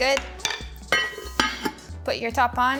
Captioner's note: lid clunks